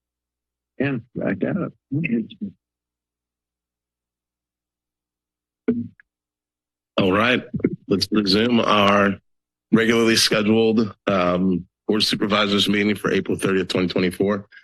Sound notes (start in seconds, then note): 1.8 background conversations